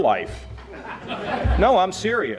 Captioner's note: audience laughing